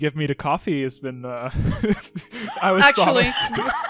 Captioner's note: laughs